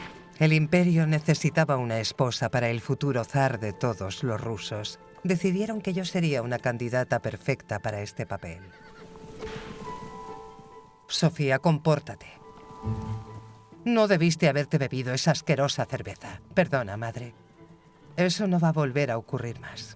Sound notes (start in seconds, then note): 8.6 horse whinnies